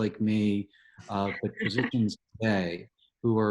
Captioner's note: chuckles